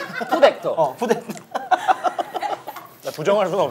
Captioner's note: laughing